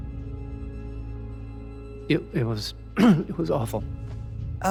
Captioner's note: clears throat